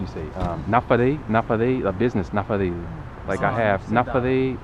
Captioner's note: somali